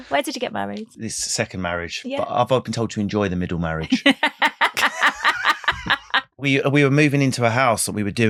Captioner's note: laughing